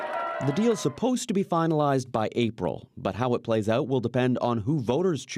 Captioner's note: cheers and Applause